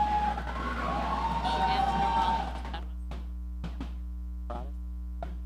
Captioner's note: audience cheering